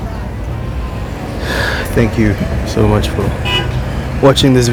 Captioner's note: exhales